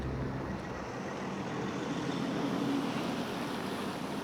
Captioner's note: car engines revving